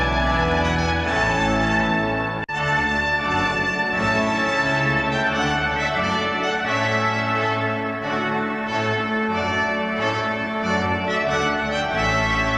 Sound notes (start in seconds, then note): none